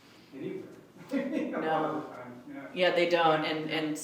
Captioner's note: laughs